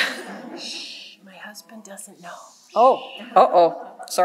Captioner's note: whispered